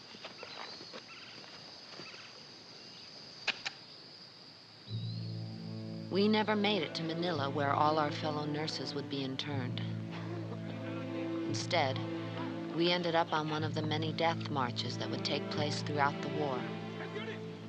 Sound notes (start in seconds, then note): 6.6 Maggie Voiceover